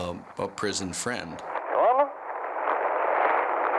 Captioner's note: static crackling